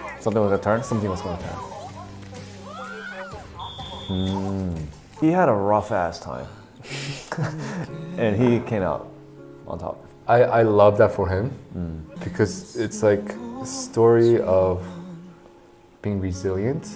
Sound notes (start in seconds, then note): 2.6 woman screaming; 2.8 whistle blows